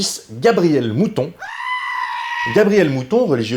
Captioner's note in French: cri de mouton